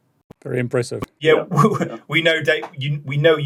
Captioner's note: laughs